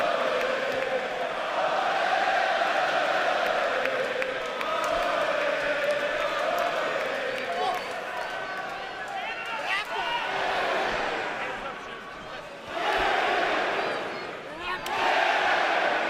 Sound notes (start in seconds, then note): 1.6 fans chanting